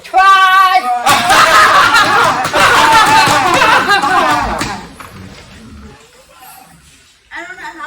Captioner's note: loud rapturous laughter